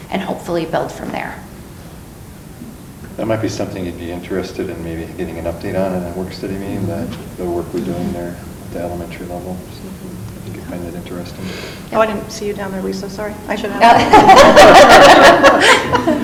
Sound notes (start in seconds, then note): 13.6 laughs